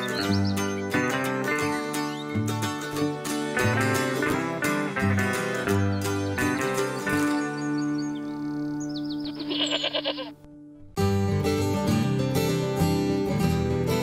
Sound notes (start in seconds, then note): 9.2 goat bleats; 10.8 bright guitar music